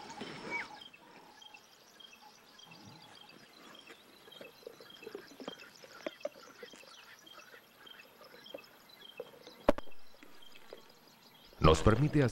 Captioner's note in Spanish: sonidos selváticos